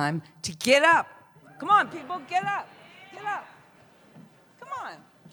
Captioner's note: scattered cheers